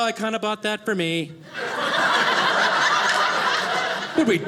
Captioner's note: audience laughing